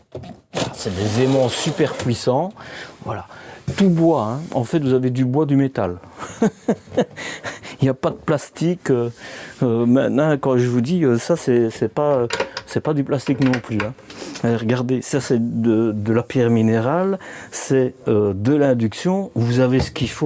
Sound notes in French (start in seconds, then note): 6.1 rires